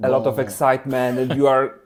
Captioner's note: laughs